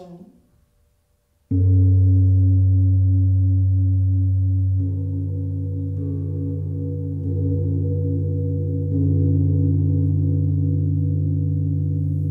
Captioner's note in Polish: gong